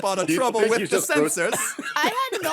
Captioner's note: laughing